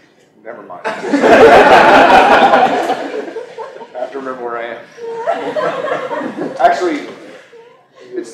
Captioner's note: audience laughter